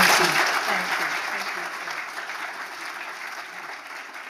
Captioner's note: audience applauding